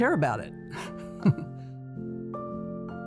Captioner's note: laughs; soft piano music